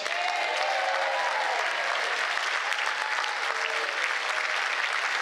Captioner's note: applause